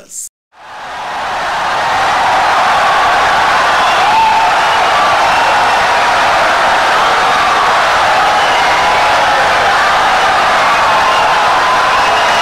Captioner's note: wild applause and cheering for 17 seconds